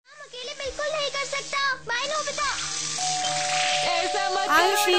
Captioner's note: "Doremon" cartoon playing in Hindi